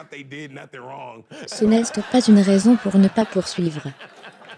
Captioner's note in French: des rires